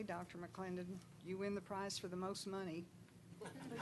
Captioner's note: laughing